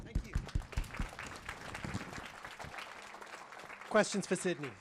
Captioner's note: applause